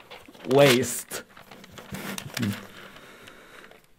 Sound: paper ripping

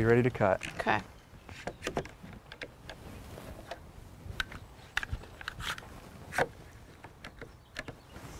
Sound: rattling of clamps against wood, no additional audio

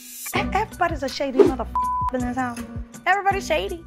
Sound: beeps

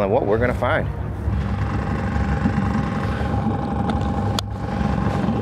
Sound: boat engine rattling

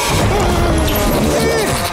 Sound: groaning

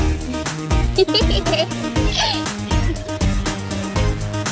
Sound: bright, twinkling music; girls giggle

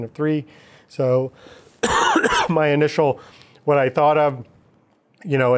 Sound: coughing

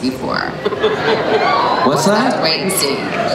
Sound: laughter

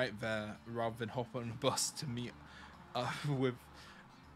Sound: laughs

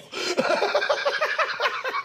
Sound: laughs

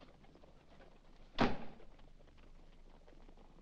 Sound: door shuts

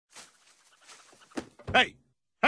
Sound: rustling in brush

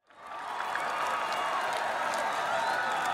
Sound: cheering

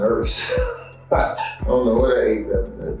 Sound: laughs

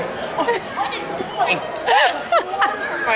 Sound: laughing

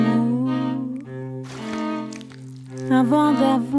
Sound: light splashing noises

